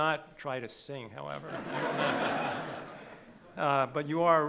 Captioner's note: laughing